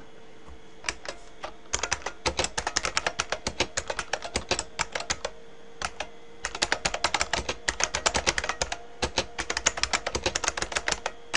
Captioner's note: typing